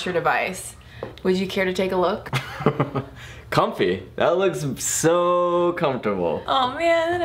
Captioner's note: laughter